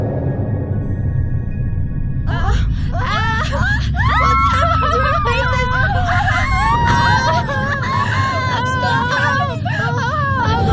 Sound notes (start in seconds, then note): 2.8 screams and Distress